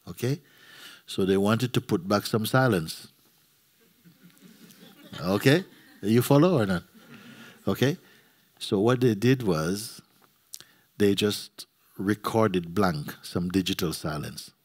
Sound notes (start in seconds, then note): 3.8 laughter